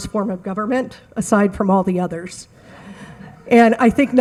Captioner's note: audience laugh